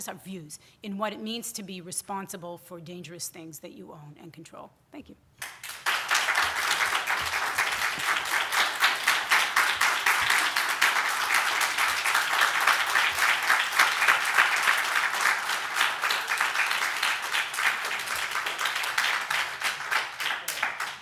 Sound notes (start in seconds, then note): 5.4 audience applause continues; 5.8 audience applause